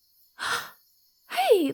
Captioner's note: surprised gasp